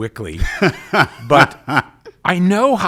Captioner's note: laughing